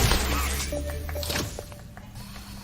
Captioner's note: Poppy Clapping